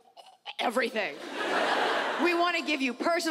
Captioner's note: audience laughs